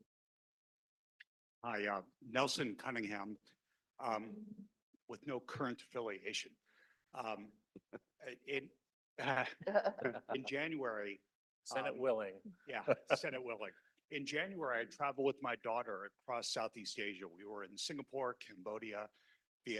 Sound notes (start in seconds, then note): 9.2 laughter